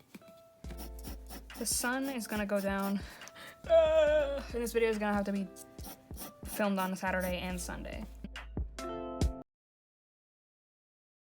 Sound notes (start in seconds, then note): 0.0 uneasy sound effect; 3.6 groan of anguish